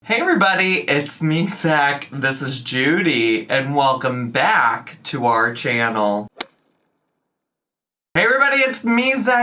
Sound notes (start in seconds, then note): 6.1 logo clicks